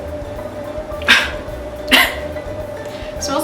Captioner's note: cough